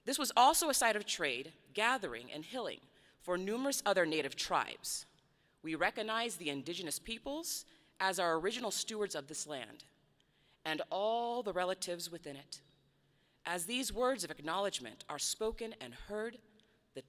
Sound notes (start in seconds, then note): none